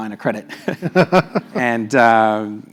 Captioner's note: laugh